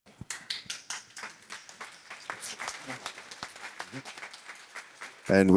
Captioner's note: applause